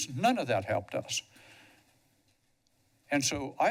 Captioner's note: pause